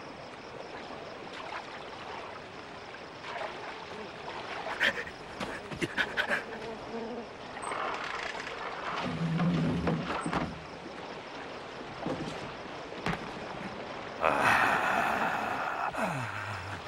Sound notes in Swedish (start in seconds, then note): 4.3 grymtande ljud; 14.2 morrande ljud